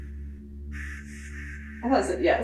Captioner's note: static crackling